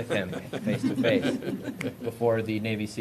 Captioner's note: laughter